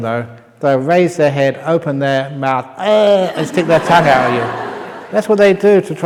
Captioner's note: laughter